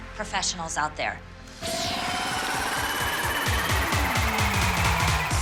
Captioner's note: crowd cheering